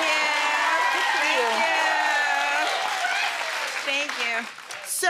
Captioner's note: audience cheering